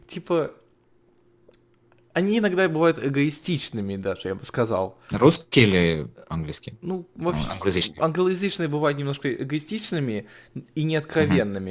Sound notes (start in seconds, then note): 7.2 laughing